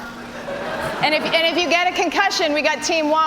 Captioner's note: laughter